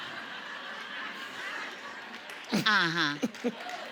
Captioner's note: audience laughing